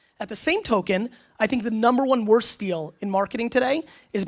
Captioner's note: none